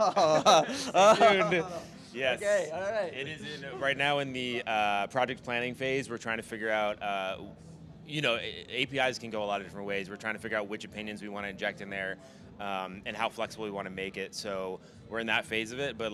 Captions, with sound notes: (laughing) Yes. Okay, all right. Right now in the project planning phase, we're trying to figure out, you know, APIs can go a lot of different ways. We're trying to figure out which opinions we want to inject in there and how flexible we want to make it. So we're in that phase of it,